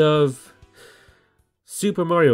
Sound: inhales

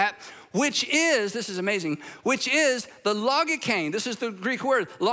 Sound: speaks Greek

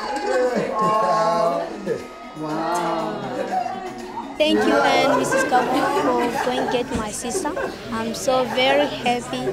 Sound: laughs

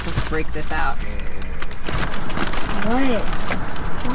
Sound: groans

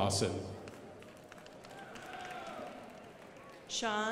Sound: crowd applauding

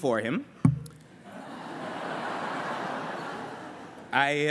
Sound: laughter

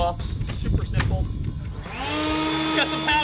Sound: blower whirring

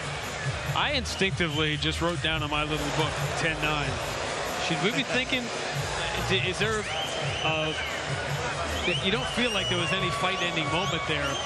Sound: cheers and applause

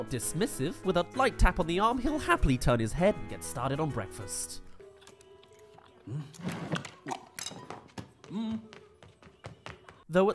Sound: gasps* *Runs

